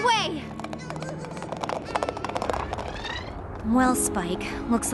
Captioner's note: clattering hooves